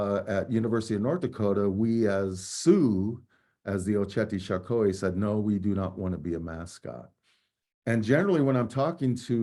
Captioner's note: speaking native language